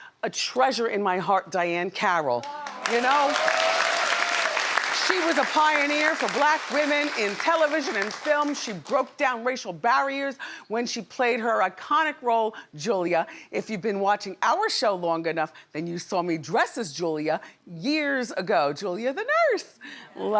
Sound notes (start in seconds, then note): 2.4 audience cheers